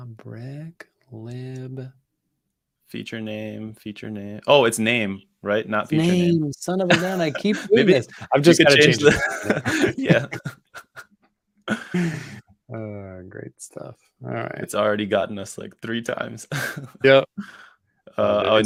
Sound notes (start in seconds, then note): 10.9 laughter